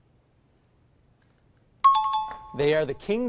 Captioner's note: chiming